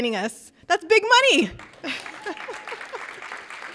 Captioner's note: audience applauding; laughs